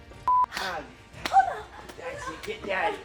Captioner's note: slapping